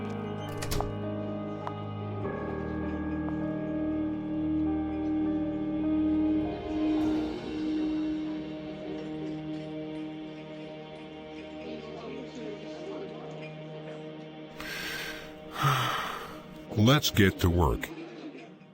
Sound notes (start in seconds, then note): 0.4 door closing, footsteps; 14.6 breathing